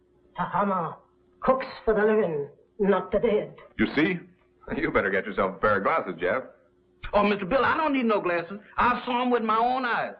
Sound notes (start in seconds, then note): none